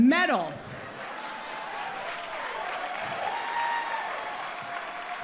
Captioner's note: audience cheers